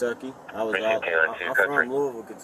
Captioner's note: radio chatter